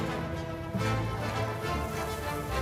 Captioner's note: debri smashes